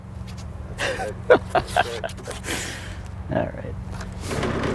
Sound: laughing

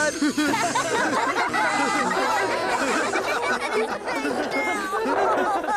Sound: laughter

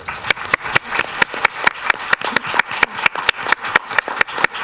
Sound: audience claps

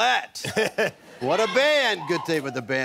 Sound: laughs

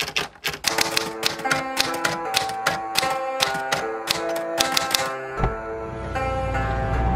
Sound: typing sounds

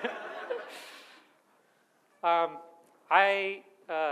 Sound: audience laughs

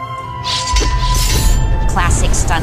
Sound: metal clanging

